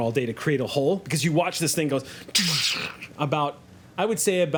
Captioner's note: crashes